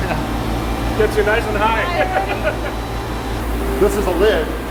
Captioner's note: laughs